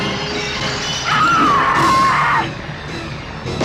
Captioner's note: screams